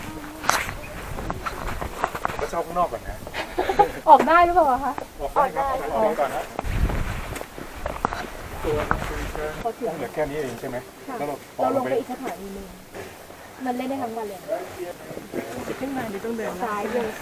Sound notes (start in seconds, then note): 2.4 laughs